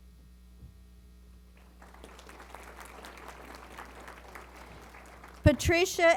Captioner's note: applause